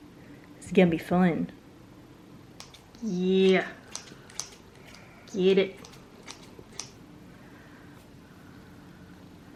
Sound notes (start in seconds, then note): 5.3 snip snip snip